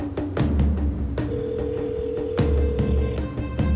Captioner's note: line ringing